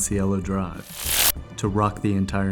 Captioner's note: electricity buzzing